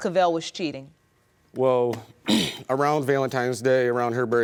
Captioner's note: clears throat